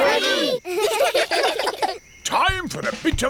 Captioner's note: children giggle